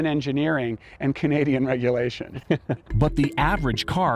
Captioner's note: laughs